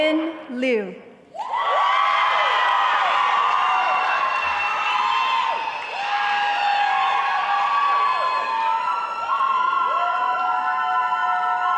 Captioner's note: audience cheering